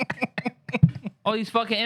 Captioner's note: laughing